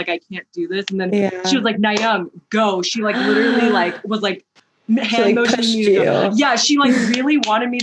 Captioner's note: gasp